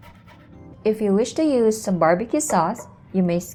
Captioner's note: bowl thuds